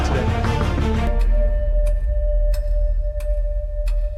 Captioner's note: clock ticking